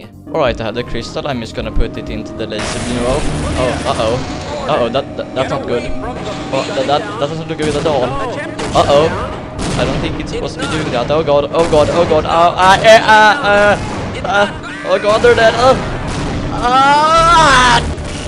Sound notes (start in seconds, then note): 12.5 confused screaming